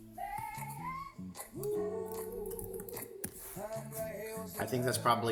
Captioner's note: crying